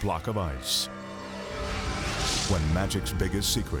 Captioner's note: graphics whooshing